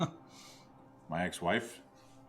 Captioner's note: Alan chuckles